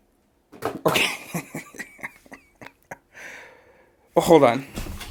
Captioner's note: chuckles